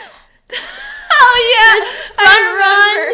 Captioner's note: laughs